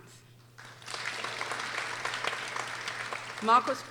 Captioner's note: people applauding